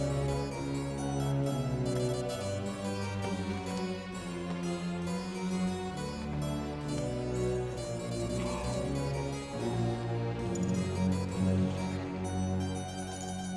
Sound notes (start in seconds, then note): 8.5 coughing